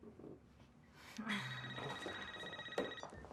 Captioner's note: phone ringing